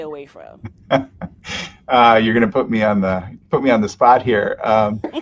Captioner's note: laughs